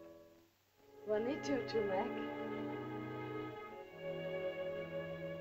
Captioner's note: Loana speaks to Tumak in caveman language; soft music